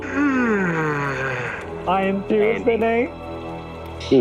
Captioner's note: yawn; laughs